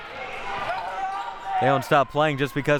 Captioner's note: audience chattering and yelling